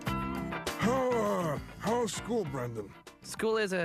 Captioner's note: sighing